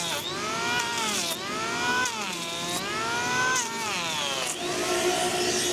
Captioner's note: sander buzzing continues; sander buzzing